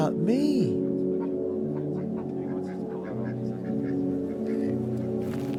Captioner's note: men quietly chatting; animals quietly chattering; footfalls scuffing